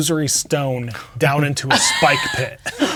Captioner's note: laughing